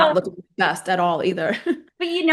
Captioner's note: laughing